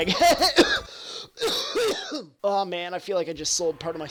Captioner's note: laughs; cough and wheeze